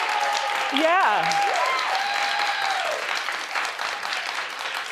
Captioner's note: audience cheers; audience applauds